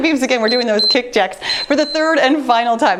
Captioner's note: timer beeps